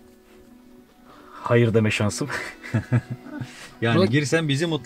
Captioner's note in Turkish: Gülüşmeler